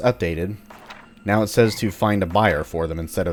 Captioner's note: journal opens; journal closes